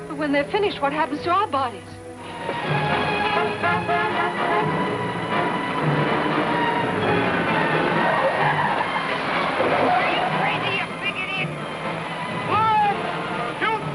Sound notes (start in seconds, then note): 3.3 dramatic theme music; 8.6 tires squealing